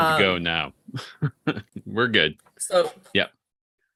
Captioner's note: chuckles